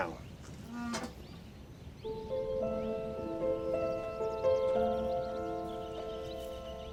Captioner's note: birds chirping; somber music